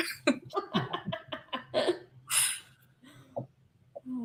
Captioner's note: laughter